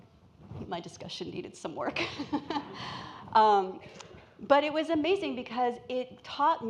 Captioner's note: laughs